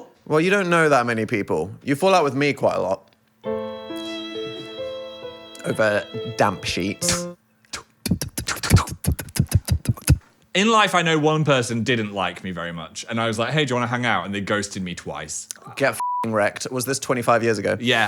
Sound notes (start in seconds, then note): 3.4 sad music; 7.7 Dan spitting; 7.7 Phil spitting; 16.0 beep